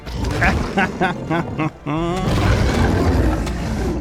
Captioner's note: laughs in bucky!